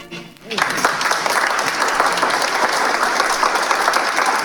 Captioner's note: applause